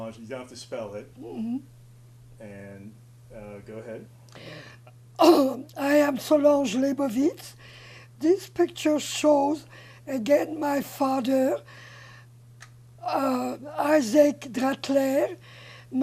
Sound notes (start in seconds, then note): 5.4 clears throat